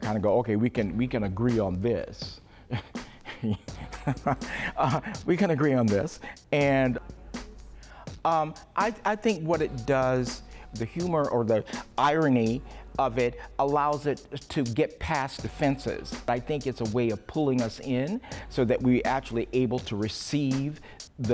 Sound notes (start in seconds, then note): 2.7 laughs